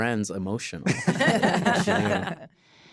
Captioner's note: all laugh